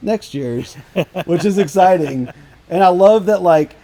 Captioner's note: laughing